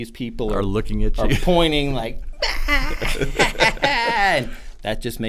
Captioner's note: laughing